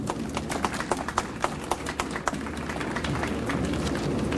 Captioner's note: audience applauds